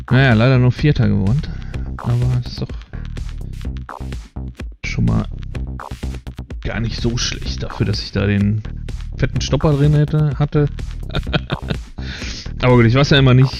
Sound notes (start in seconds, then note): 11.0 laughs